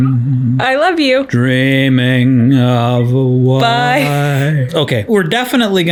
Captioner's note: laughs